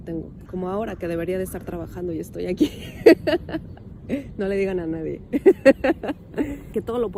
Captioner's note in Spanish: risas